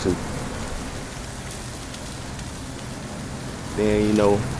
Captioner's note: fire crackles